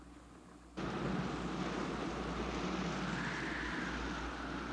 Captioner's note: wind howling